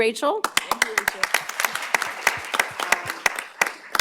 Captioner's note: applause